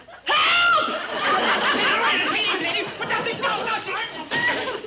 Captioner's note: loud fuss